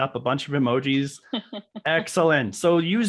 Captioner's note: laughing